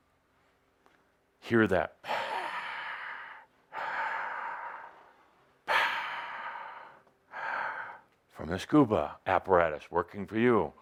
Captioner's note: he makes breathing sounds